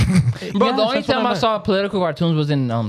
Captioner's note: laughing